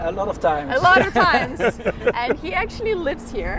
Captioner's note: laugh